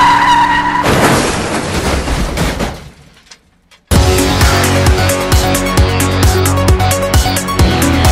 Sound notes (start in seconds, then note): 0.0 car crashes